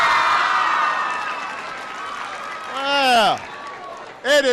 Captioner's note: applause